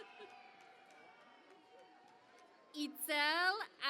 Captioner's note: cheering and Applause